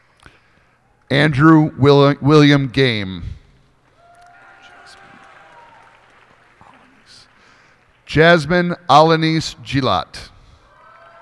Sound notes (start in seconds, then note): 3.9 cheers and applause